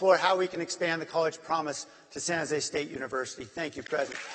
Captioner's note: applause